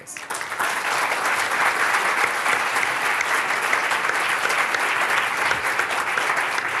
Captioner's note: applause